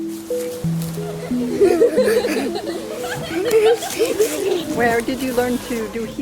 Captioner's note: girls laughing